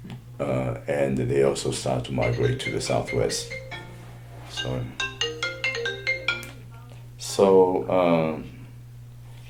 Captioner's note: cell phone ringing in the background